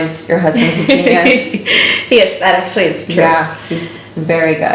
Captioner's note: laughs